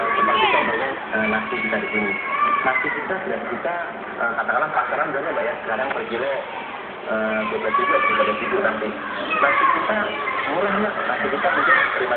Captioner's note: TV Sound